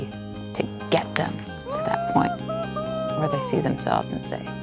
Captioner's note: yelling